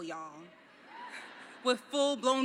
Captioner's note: laughing